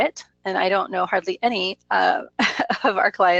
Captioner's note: laughs